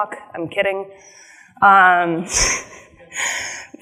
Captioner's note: chuckles